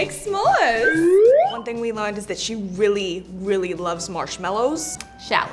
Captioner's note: slide whistle